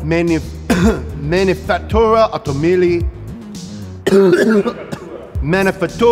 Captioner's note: coughs; coughs